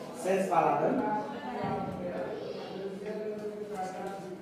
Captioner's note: speaks French